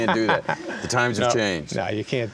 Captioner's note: laughing